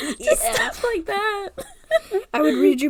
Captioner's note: laugh